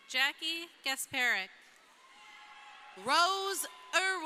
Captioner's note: crowd cheering